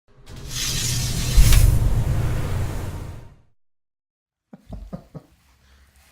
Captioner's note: laughing